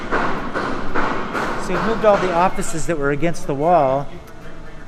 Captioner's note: hammering